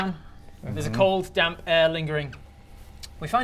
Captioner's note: soggy mhmm